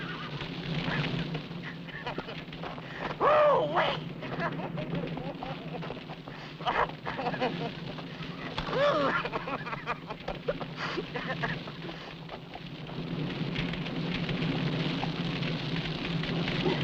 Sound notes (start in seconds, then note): 4.5 laughing; 13.3 flames crackling